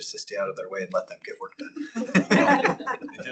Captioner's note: laughter